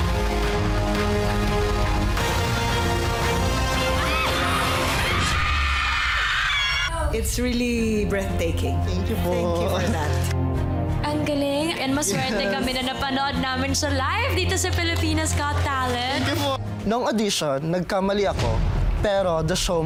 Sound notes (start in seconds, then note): 0.1 dramatic music playing; 3.8 shrieks; 5.7 crowd screaming